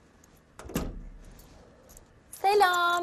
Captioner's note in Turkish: Kapı kapanma sesi